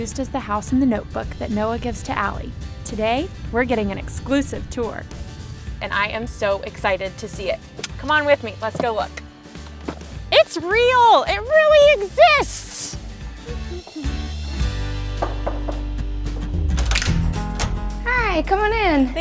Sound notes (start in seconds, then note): 15.2 knocking on door; 16.4 door opening